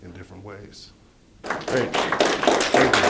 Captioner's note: clapping